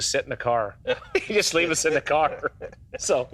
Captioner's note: laughs